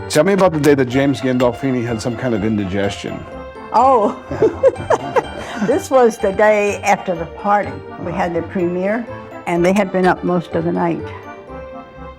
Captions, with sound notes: Tell me about the day that James Gandolfini had some kind of indigestion. Oh! [Laughs] This was the day after the party. We had the premiere, and they had been up most of the night.